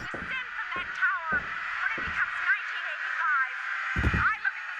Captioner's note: TV playing a 1985 New Year’s program in the background